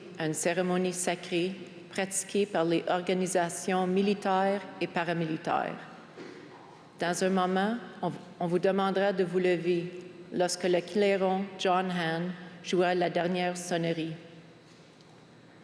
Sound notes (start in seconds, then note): 5.0 speaking french